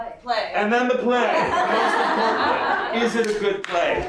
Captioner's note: laughter